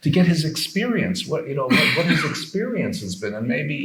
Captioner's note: attendee coughing